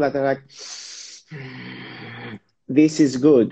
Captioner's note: breathing deeply